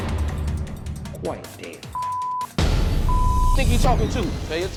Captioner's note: beep